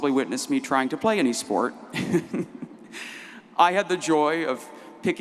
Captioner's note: laughs